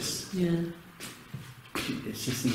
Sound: pat

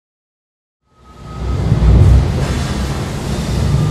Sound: factory sounds

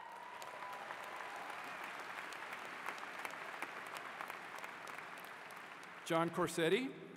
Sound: applause

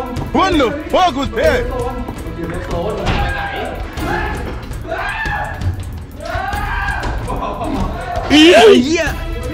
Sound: continuous screaming

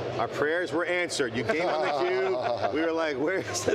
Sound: laughing

